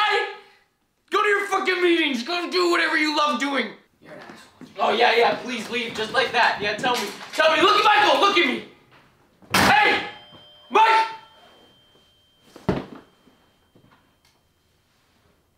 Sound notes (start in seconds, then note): 12.0 door closes